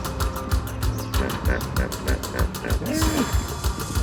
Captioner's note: hippo grunting; dramatic music